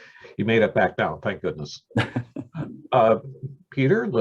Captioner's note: laughter